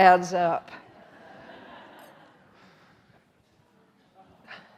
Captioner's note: audience laughing